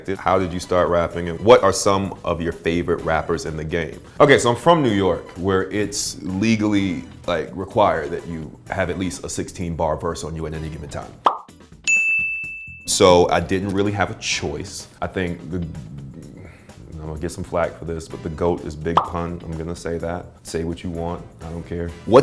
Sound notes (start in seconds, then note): 11.2 statute book pops; 11.8 bell dings